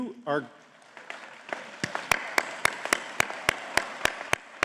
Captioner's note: audience clapping